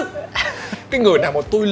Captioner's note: laugh